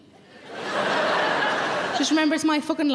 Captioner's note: audience laughing